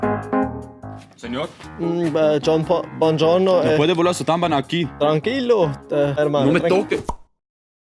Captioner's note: spanish